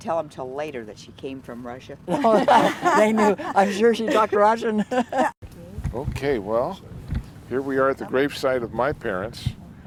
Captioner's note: laughter